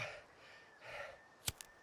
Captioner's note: lighter clicks